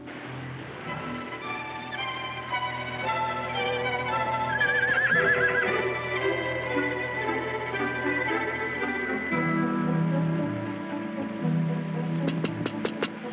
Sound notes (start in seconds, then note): 4.1 neighs; 6.5 exhilarating music playing